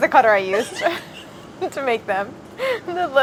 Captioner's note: laughing